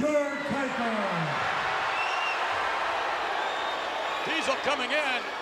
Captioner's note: crowd cheers